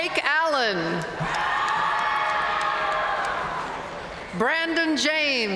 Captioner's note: audience cheering and applauding